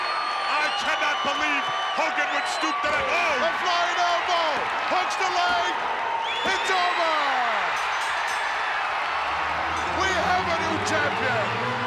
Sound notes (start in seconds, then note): 7.2 audience cheering; 7.6 ring bell clanging; 11.6 audience cheering; 11.6 regal music